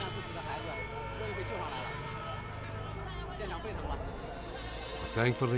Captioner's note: rescuers speaking in Chinese